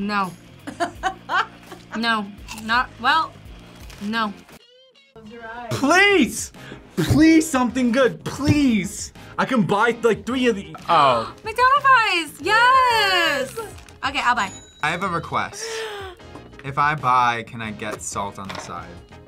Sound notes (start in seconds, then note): 0.8 React laughs; 11.6 gasps; 15.6 React gasps